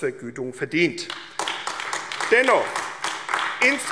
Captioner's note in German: Beifall AfD